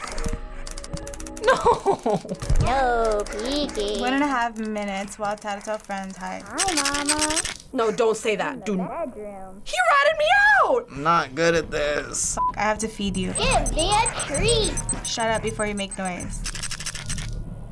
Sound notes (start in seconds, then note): 6.3 Tattletail, muffled; 16.3 flashlight rattles